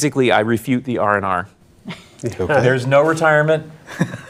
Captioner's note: laughing